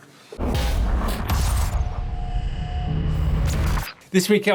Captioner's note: electronic rumbling